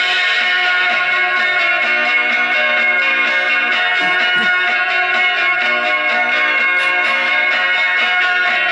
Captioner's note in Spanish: campana